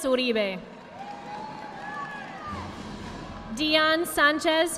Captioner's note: audience applauding